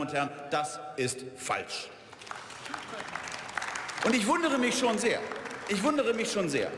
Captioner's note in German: Beifall